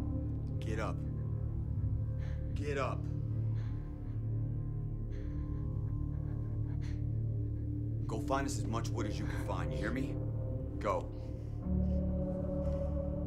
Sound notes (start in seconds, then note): 3.8 heavy breathing; 11.4 light dramatic music